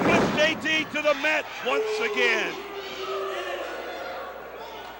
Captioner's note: crowd cheering